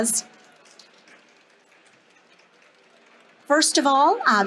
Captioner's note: audience applauding